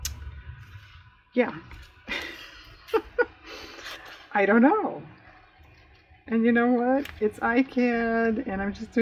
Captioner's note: laughs